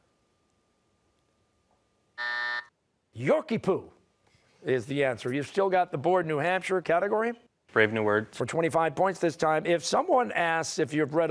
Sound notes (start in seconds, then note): 2.1 buzzer